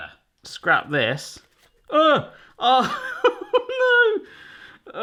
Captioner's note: laughs